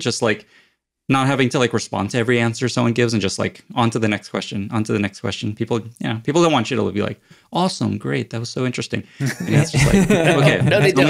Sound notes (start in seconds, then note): 9.2 all laugh